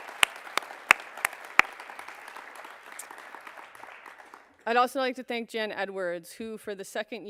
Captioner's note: applause